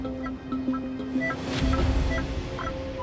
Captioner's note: detector beeps